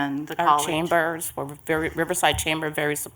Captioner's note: multiple voices